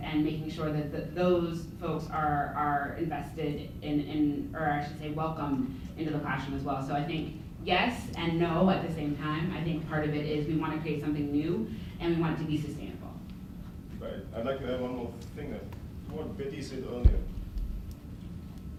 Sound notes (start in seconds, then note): none